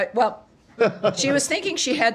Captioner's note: laughter